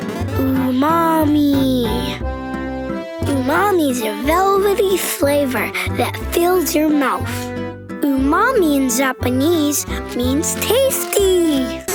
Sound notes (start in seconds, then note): none